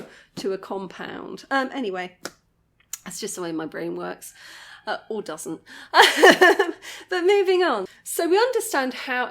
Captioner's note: laughing